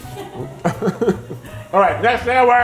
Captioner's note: laughing